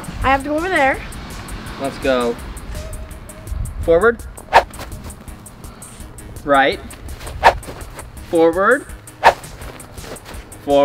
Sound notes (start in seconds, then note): 4.5 air whistling; 7.5 air whistling